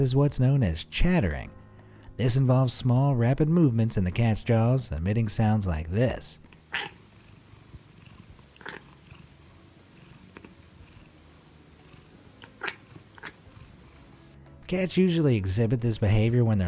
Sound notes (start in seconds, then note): 6.6 cat chattering